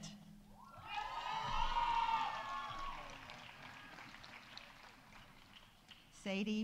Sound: audience cheering; audience applauding

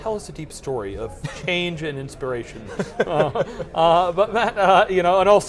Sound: laughs

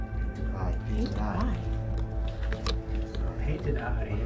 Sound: group muttering

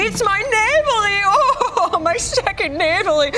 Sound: imitates German accent; laughs

